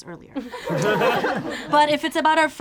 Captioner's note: group laughs